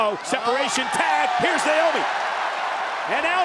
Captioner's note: crowd cheering